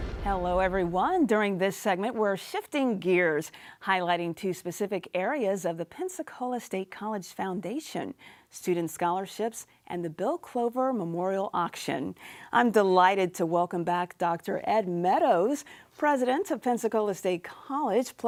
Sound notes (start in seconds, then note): none